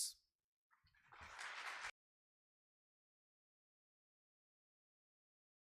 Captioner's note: audience applause